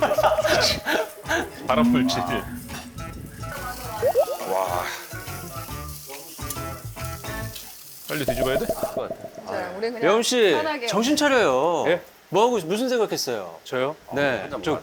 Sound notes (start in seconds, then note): 3.2 the meat sizzles on the grill